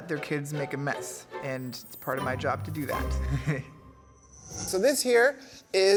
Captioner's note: chuckles